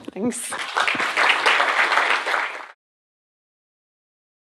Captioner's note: applause